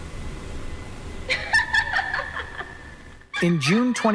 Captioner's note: laughter